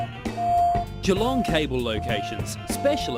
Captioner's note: voiceover